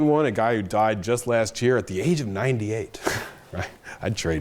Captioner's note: chuckles